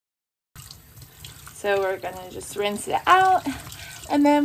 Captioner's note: water running